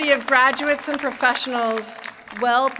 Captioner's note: applause